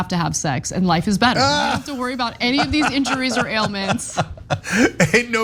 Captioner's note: laugh